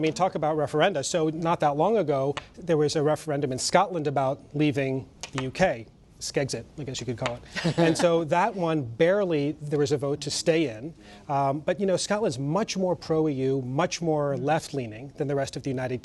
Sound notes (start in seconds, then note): 7.5 laughter